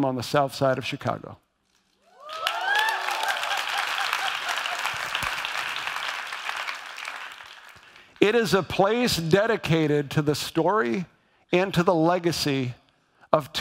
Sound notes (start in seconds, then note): 2.1 audience applauds